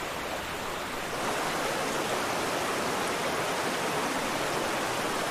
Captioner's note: water flowing